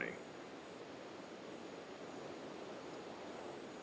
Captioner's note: wind blowing gently